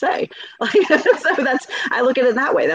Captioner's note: laughing